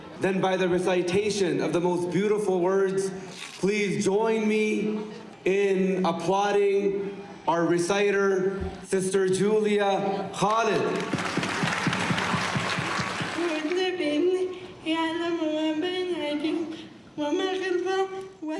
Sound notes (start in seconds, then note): 10.4 everyone clapping; 13.5 reciting Quran in Arabic